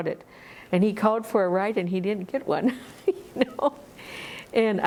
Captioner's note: laughs